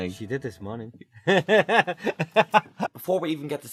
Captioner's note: laughter